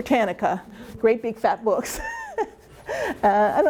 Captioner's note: chuckling